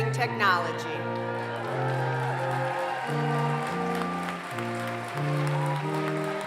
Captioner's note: applause